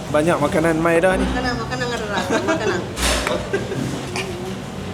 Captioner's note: laugh